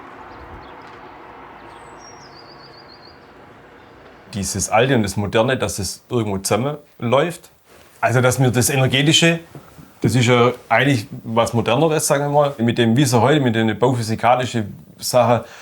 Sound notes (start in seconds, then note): 0.8 birds chirping